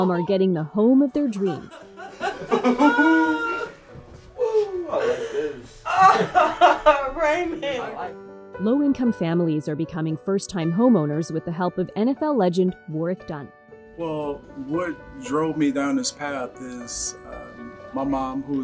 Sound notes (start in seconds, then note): 1.4 laughing